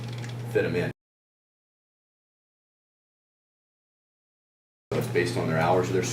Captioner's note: silence